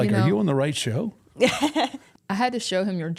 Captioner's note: chuckles